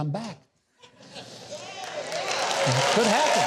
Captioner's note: applause and scattered laughter